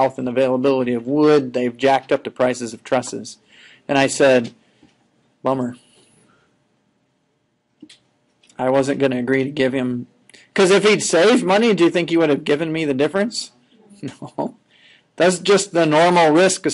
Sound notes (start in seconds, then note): 13.8 chuckling